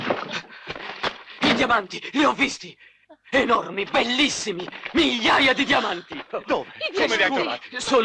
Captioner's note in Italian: risate